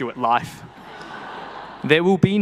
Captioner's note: people laughing